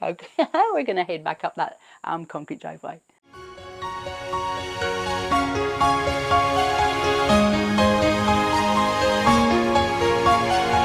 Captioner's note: laughs